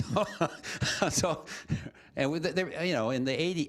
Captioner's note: laughter